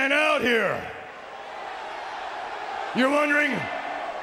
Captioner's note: audience cheering